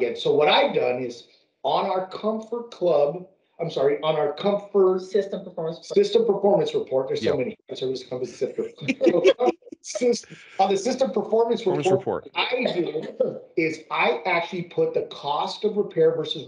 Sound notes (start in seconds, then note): 9.3 laughing